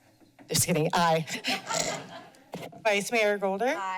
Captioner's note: laughter